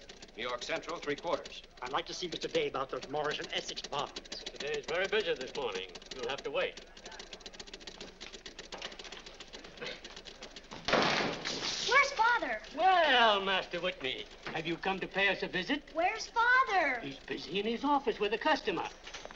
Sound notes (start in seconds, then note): 7.1 machines clicking; 10.8 door slams